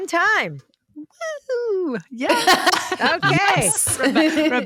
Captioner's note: cheers